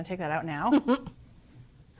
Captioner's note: Bridget laughing